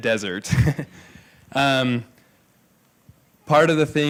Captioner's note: laughs